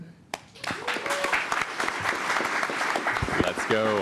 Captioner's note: applause